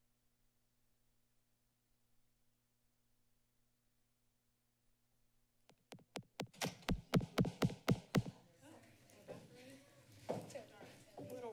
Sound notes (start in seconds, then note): 0.1 silence; 6.2 mic noise; 8.4 background chatter